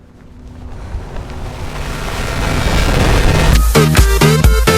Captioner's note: distorted sounds